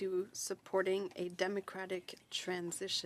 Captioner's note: speaking French